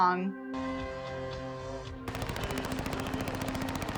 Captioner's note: guns firing